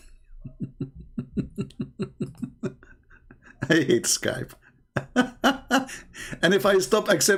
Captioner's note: Ketawa